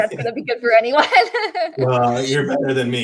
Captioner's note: laughter